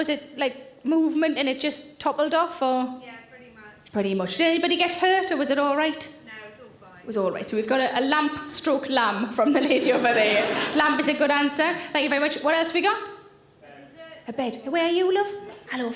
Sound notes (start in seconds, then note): 9.5 audience laughing